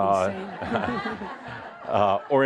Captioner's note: laughter